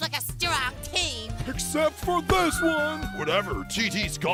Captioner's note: ice cube cries